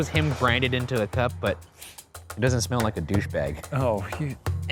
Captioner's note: laughs